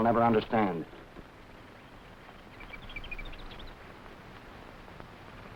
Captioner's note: animals chattering